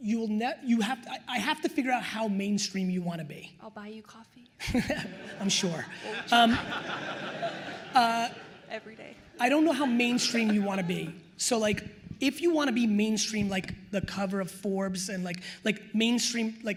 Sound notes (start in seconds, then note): 4.6 attendees laughing